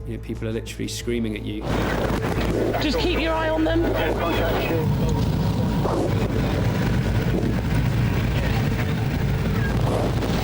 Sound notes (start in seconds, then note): 4.4 boat engine revving